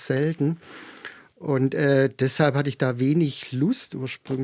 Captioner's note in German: none